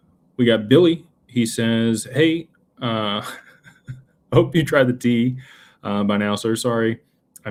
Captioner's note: laughter